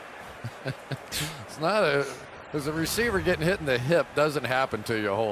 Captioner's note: laughs